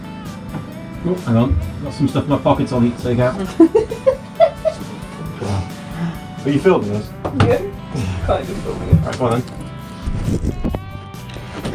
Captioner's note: both laugh